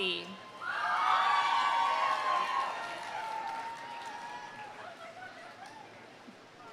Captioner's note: audience cheering; audience applauding